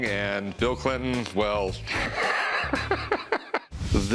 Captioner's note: laughs